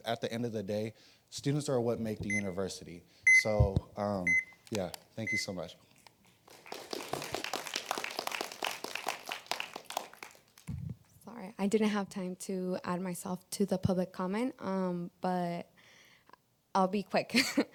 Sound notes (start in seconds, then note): 11.0 applause